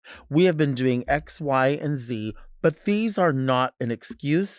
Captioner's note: none